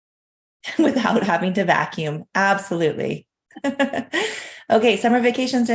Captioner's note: laughs